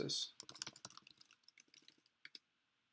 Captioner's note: typing